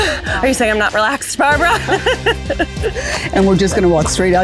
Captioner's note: laughs